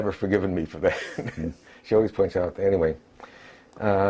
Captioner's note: laugh